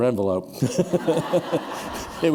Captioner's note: laughter